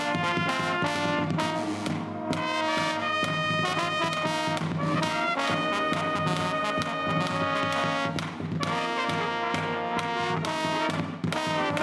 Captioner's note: applause